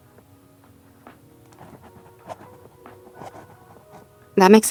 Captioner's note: writing sounds